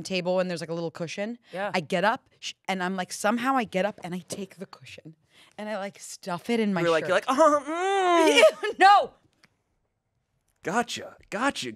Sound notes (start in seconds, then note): 7.2 moans; 7.2 laughs